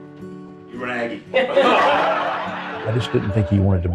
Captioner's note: guests laughing